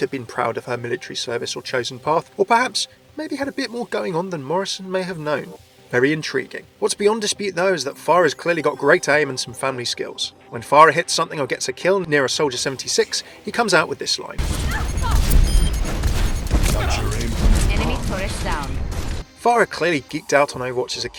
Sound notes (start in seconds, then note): 14.4 loud gunfire; 16.5 voiceover